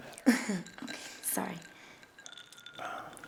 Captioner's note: chuckles